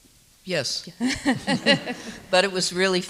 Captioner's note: people laughing